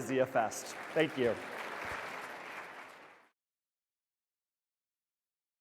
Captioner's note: audience applauding